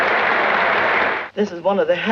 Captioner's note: crowd clapping